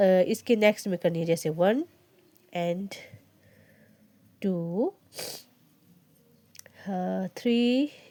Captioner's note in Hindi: नाक से की जाने वाली आवाज़